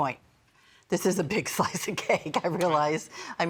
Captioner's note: laughing